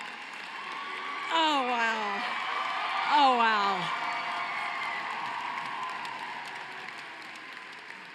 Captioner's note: cheering and applause